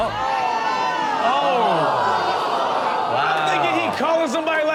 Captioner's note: audience gasps